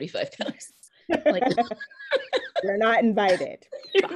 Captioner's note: laughing